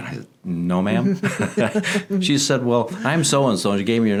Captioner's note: laughing